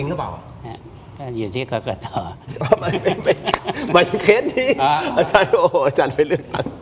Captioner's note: laughter